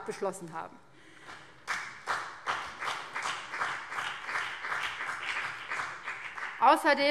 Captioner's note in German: Beifall BÜNDNIS 90/DIE GRÜNEN